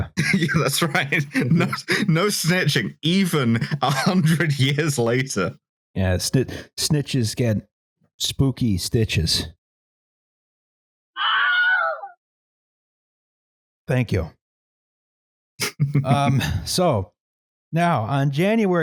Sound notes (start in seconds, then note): 0.0 laughing; 11.2 ungodly shriek; 15.6 chuckles